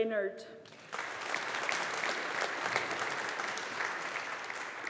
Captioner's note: audience applauding